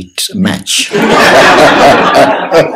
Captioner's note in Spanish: Risas generales